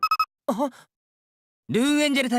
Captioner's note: gasp